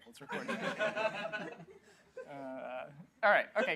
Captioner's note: laughter